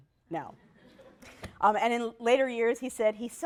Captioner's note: laughter